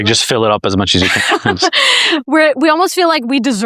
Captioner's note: laughs